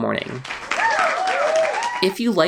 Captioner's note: applause sound effect